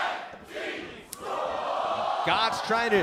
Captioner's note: fans chanting